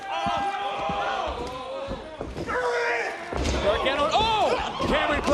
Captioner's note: crowd chatter